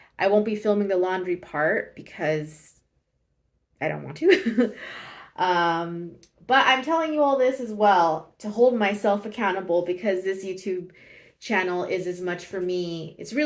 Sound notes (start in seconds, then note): 4.8 laughs